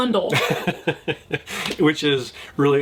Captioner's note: laughs